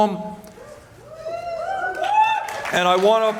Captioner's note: cheers